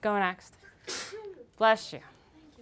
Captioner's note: sneeze